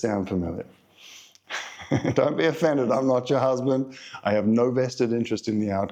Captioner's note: laugh